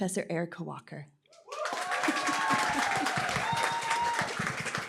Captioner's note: applause, cheering